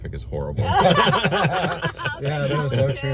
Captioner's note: laughing